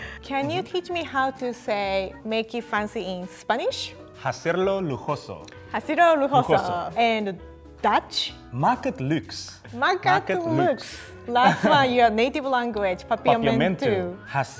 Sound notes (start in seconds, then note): 3.9 speaking in foreign language; 8.6 speaking in foreign language